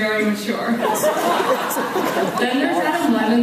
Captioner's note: laughs